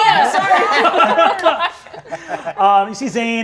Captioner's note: all laughing